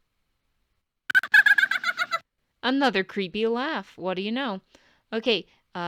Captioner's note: Serena laughs